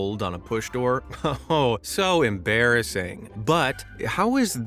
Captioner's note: chuckles